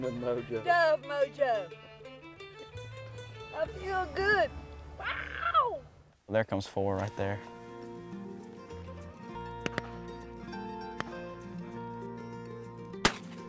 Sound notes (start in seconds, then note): 4.9 excited cheering